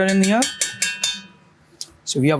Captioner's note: spoon clinking